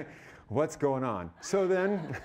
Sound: audience laughing

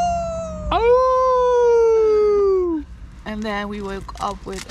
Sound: howls

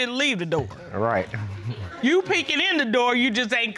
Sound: chuckles

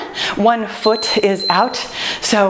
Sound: timer beeps

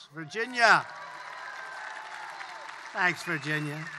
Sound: applause

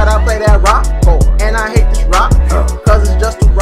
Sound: ugh

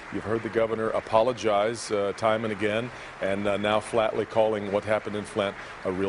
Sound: applause

